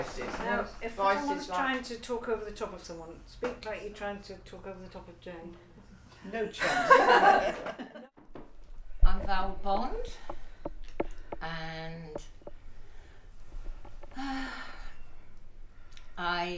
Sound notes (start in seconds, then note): 6.6 laughter; 14.0 sighs